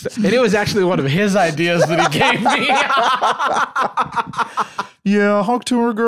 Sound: both laughing

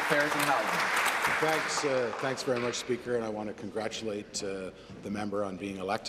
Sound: applause

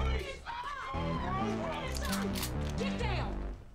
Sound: gun cocks

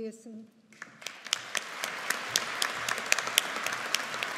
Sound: audience applauding

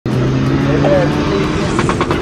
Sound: engine rumbling

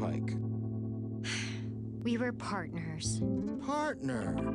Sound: sigh

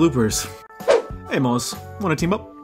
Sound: said in awful Australian accent

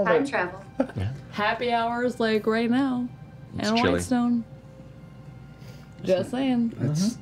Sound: slurred

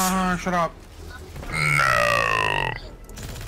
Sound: in a froglike voise

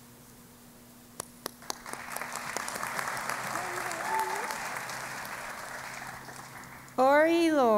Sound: applause

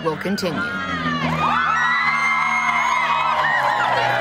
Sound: girls cheering

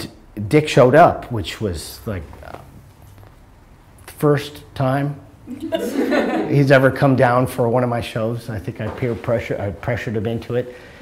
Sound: laughter

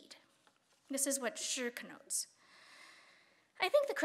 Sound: speaking Chinese

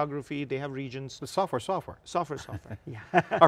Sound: laughs

